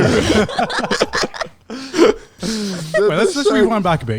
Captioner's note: everyone laughing